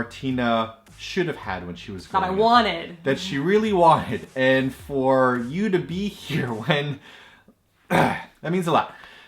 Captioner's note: chokes up and clears throat